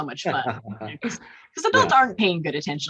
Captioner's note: chuckles